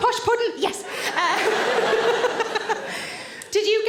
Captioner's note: all laugh